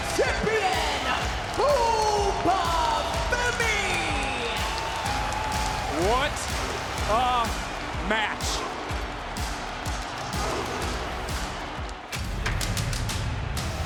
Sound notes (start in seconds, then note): 4.5 audience cheering; 8.8 audience cheering; 8.8 upbeat music